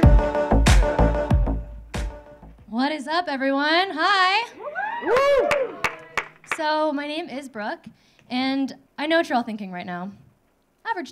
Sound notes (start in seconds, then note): 4.5 audience cheering; 4.9 audience clapping